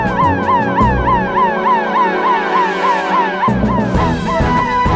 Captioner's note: siren Wailing